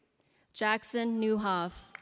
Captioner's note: applause